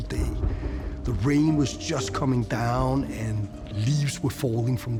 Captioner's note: thunder rumbling